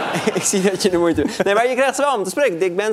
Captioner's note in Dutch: gelach